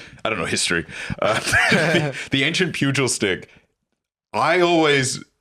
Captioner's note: laughs